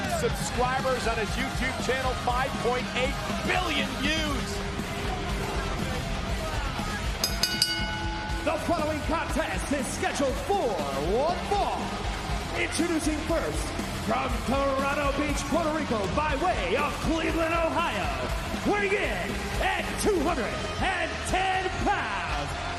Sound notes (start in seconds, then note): 9.2 bell